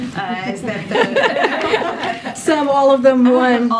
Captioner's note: laughs